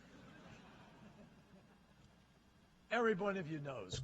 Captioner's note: laughter